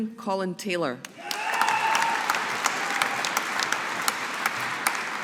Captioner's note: audience applauding